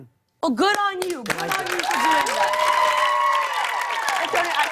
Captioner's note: cheers and applause